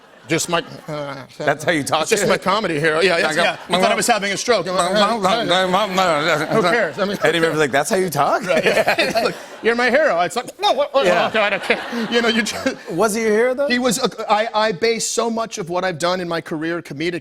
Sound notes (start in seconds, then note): 3.1 laughter; 8.4 both laugh